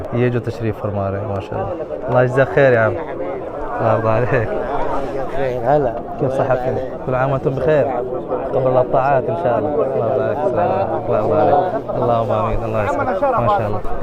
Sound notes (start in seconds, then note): 2.1 Arabic